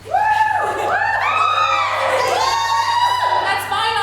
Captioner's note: cheering